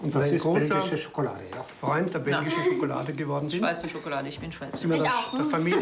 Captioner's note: speaking in foreign language